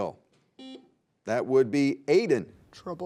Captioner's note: buzzer beeps